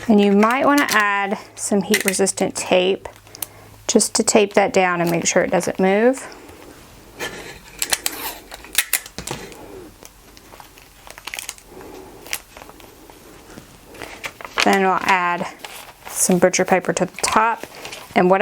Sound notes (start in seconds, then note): 7.9 tape ripping